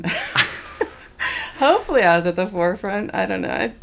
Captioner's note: laughter